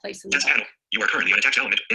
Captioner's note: synthesized speech